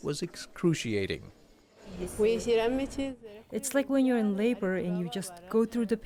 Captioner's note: through translator